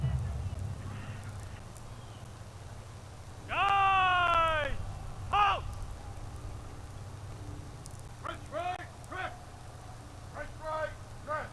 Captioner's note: shouted commands